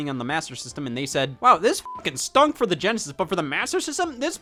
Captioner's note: beep